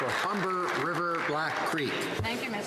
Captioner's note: some Applause